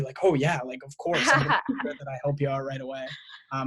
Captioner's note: laughs